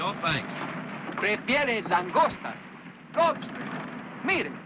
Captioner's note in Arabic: يتحدث الاسبانية